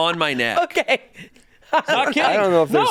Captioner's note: laughs